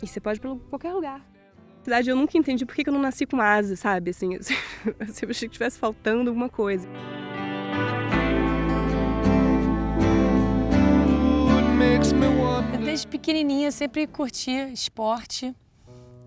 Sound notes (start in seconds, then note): 4.5 chuckles